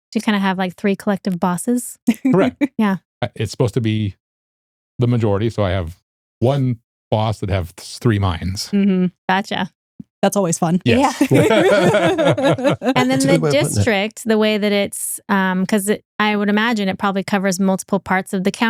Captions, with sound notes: So you kind of have like three collective bosses? Correct. It's supposed to be the majority. So I have one boss that have three minds. Gotcha. That's always fun. Yeah. (Laughing) And then the district, the way that it's, cause I would imagine it probably covers multiple parts of the